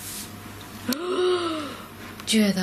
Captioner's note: gasping